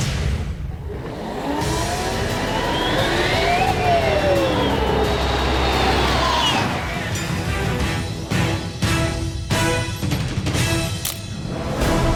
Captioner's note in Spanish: Turbine noise